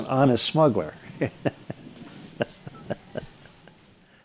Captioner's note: laughing